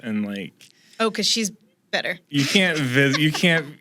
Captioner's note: laughs